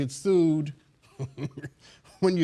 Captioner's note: laughing